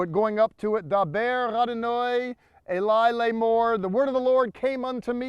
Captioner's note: speaking in Hebrew